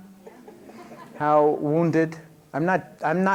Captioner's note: laughter